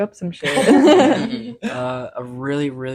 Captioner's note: laughing